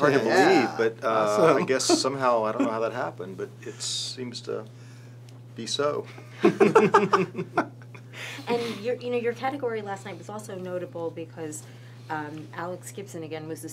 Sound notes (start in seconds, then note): 6.4 laughs